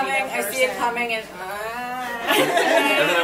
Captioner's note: cries; laughs